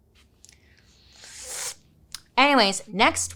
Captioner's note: exclaiming